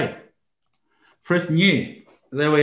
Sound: computer mouse clicking

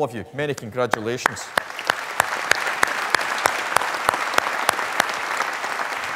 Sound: applause

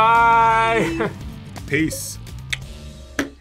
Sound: laughs; clicks tongue

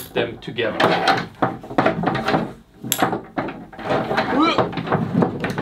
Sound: clips rattling

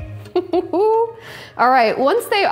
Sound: laughs

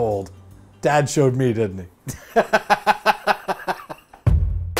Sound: laughs

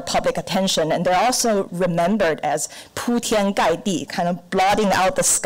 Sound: foreign language

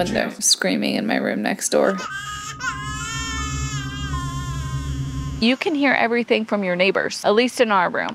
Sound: baby crying

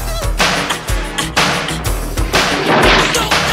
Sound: wood breaking

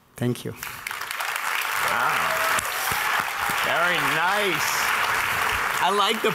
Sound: audience applauding

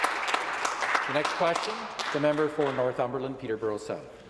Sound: some Applause

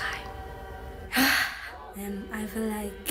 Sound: sighs

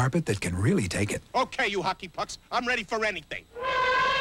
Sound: Rickles, angrily; elephant trumpets loudly

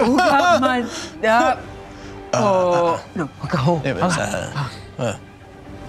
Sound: grunts inquisitively

